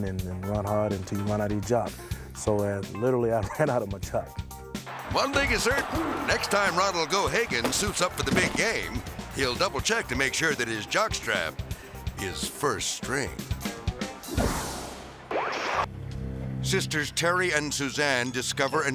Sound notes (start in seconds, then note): 15.3 TV interference chirps